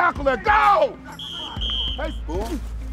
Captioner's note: whistle blowing